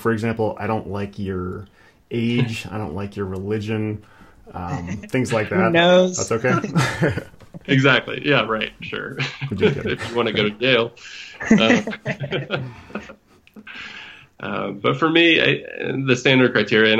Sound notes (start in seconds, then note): 6.7 laughs; 11.3 laughter